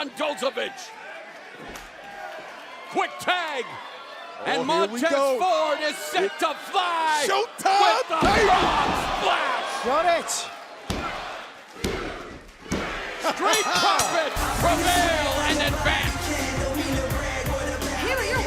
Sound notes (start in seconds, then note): 13.5 bell ringing